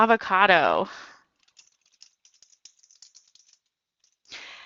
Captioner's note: typing